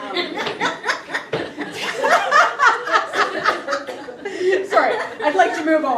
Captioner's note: audience laughing